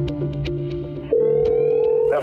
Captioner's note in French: sonnerie